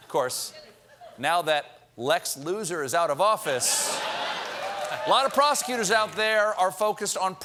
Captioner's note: laughter